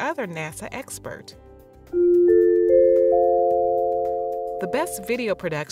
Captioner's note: chime sound